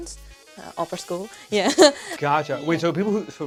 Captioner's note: laughs